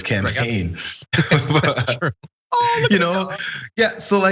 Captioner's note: laugh